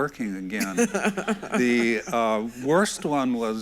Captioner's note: everyone laughs